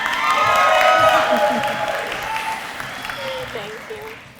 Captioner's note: applause